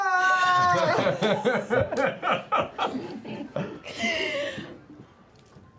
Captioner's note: screams